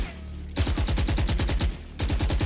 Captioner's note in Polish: ratatatatata